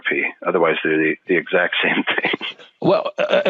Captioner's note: laughs